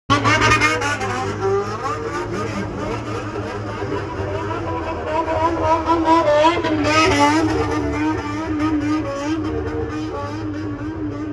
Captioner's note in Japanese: 暴走族の爆音